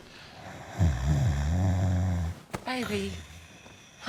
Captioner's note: Tommy snores